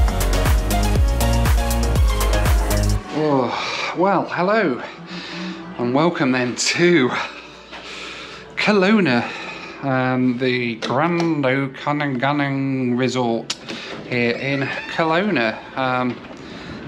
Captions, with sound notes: (sighs) Well, hello. And welcome, then to Kelowna the Grand Okanagan Resort here in Kelowna